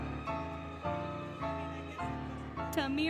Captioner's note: applause, Cheering, Music; cheering, Indistinct Chatter, Music